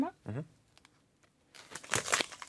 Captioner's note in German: Knacken